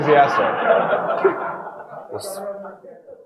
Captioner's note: audience laughing